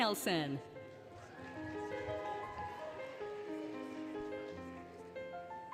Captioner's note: applause, Cheering, Music